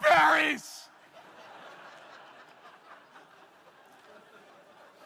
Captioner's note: crowd laughing